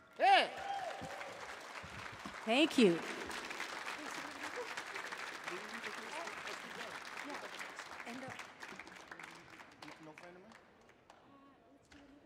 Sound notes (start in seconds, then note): 1.2 audience clapping; 5.4 laughs